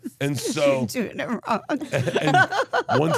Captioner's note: laughs